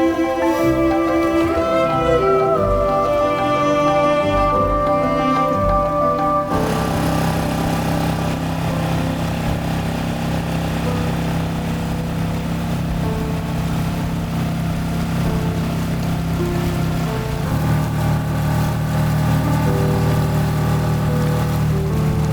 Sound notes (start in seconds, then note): 0.3 relaxing music continues; 6.9 boat whirring; 17.2 boat whirring; 17.2 relaxing music continues